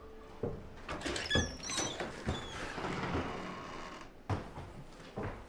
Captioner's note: door creaking